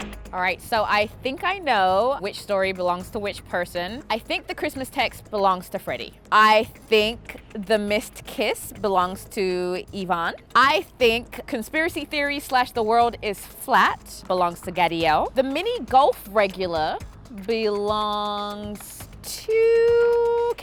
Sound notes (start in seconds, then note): none